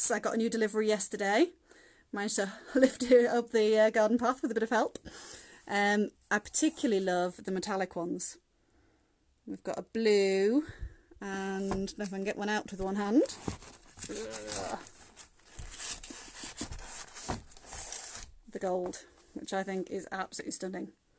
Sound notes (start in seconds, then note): 14.0 groaning